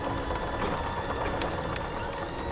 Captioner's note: coughs